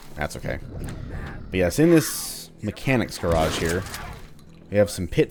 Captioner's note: gunfight continues